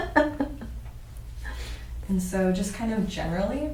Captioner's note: laughs